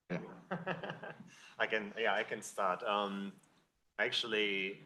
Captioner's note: laughs